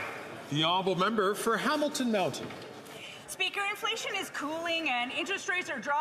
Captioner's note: some Applause